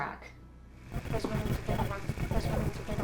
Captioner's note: static rustling